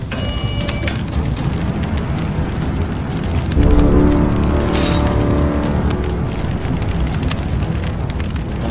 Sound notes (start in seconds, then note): 0.1 machine whirs; 4.7 machine clinks